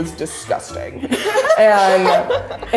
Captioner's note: laughing